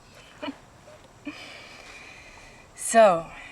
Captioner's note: chuckling